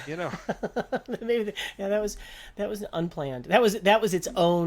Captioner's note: laughter